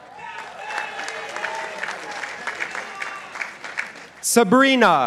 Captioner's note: participants applauding